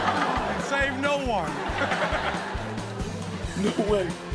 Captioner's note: all laugh